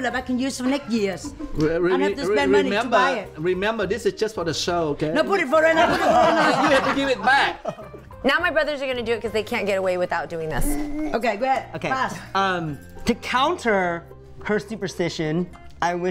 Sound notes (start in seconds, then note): 5.6 brothers laughing loudly